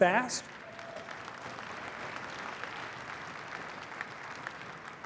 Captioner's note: applause